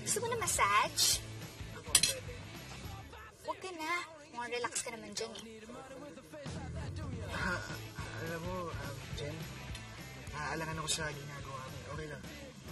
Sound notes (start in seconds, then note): 1.8 fork clinks